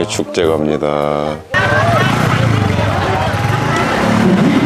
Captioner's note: laughing